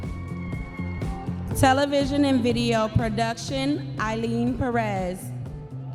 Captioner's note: audience members cheering